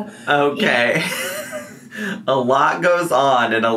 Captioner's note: laughs